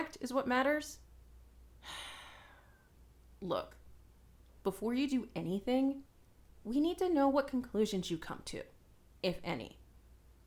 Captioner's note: sigh